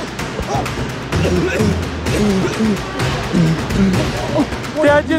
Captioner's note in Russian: Кашляет